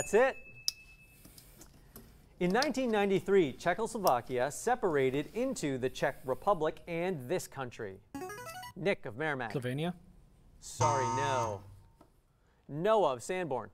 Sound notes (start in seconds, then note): 7.9 player buzzer; 10.8 error buzzer